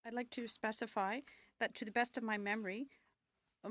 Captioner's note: speaking French